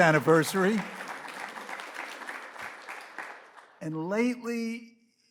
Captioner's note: audience applauds